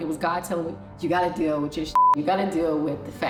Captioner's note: beep